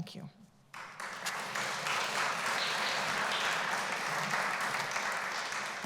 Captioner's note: applause